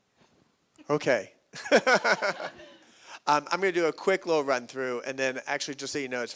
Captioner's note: laughs